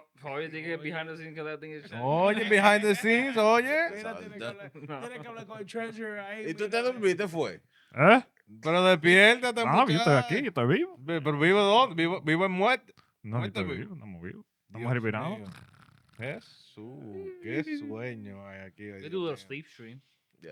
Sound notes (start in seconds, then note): 5.0 speaking Spanish